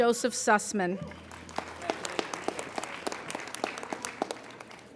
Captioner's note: applauding